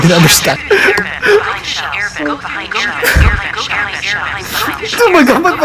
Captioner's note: giggling and crying